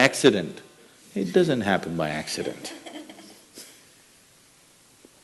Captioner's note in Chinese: 少許笑聲